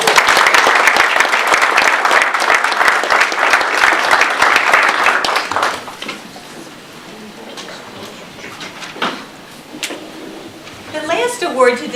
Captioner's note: audience applause